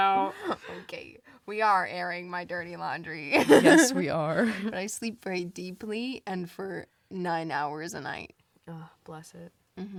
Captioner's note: laughs; laughs